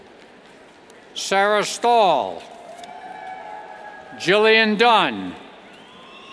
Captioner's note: cheers